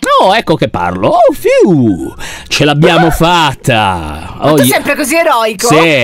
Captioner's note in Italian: sospiro di sollievo